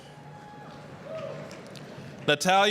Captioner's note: applause